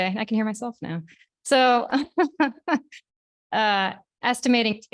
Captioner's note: laughing